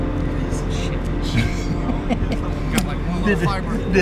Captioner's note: laughs